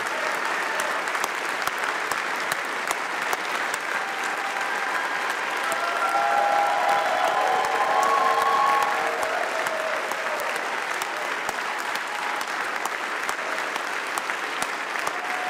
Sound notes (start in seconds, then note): 4.5 applause